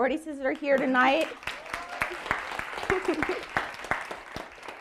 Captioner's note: audience applauding